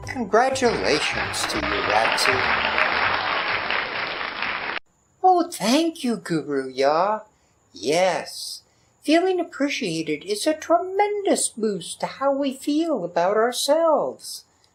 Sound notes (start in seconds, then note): 3.5 crowd applause